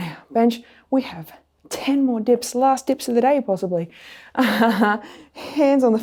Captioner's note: laughs